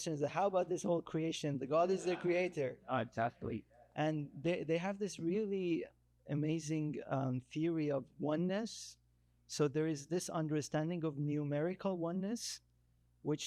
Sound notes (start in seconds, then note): 1.9 attendee chattering